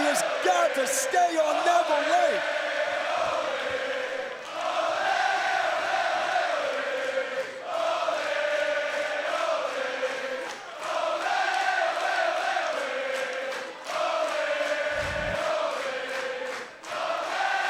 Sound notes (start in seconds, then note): 6.9 crowd chanting